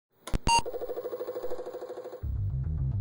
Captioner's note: disk drives beeping; deep electronic music